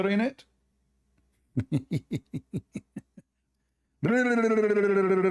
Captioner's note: Ketawa